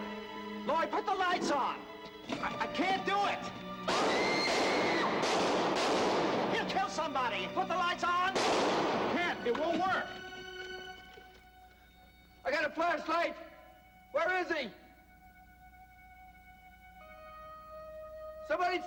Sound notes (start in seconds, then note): 3.8 gunshots